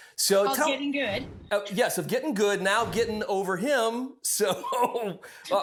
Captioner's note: laughing